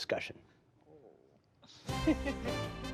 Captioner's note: laughter